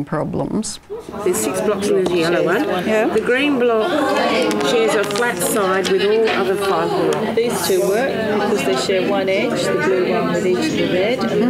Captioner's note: audience chatter